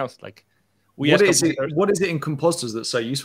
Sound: overlapping chatter

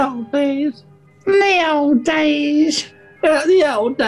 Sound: nasally

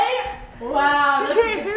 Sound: laughing

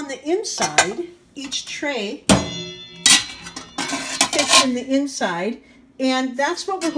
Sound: clanging sounds

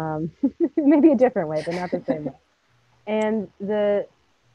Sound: laughs

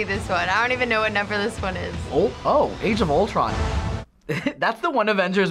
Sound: chuckles

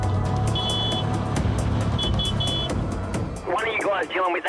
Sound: vehicle honking

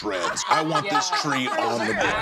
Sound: laughter

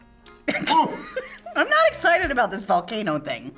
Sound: laughs

